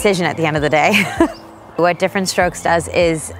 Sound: laughing

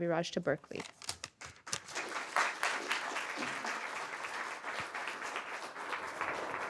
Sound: paper crackling; audience applauding

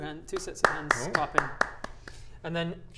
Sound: clapclapclapclapclap

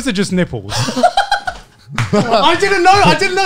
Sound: laughs

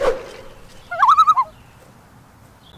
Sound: loon call

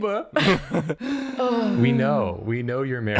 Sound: nervous laughter; relief/exasperation

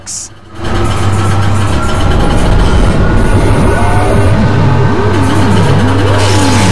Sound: metal rumbling; electricity crackles

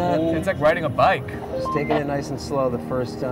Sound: radio beeping

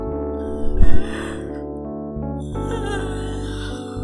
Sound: yawns

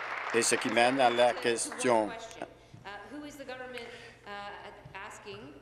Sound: applause

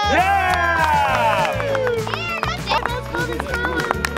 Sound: cheering

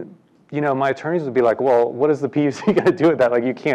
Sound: laugh

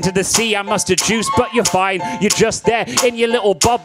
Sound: crowd member cheering

